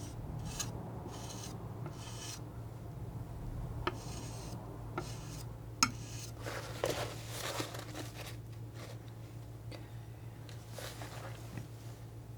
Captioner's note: tapping